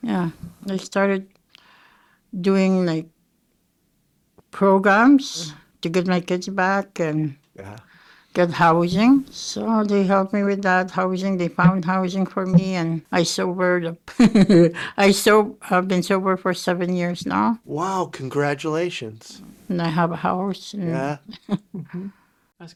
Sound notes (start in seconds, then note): 5.4 sighing; 14.3 chuckling; 21.0 chuckling